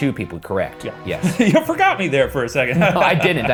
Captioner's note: laughs